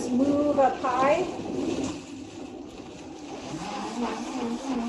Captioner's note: mixer mixing